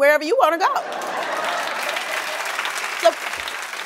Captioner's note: applause